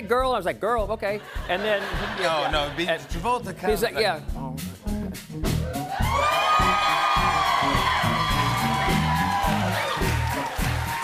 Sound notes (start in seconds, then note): 5.7 cheers and applause